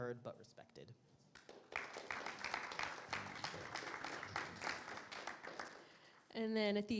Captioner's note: audience applause